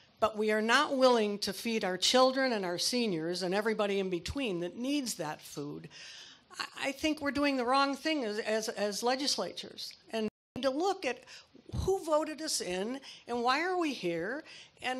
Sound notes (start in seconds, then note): none